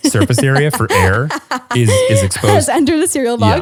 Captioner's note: laughs